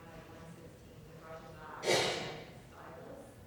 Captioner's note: crowd member sneezing